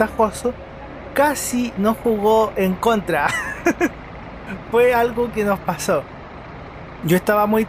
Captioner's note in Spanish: risas